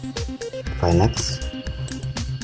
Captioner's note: click